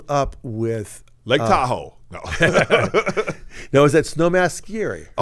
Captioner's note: laughs